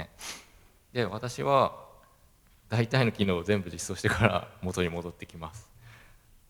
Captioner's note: laugh